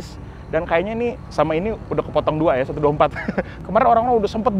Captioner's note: laughs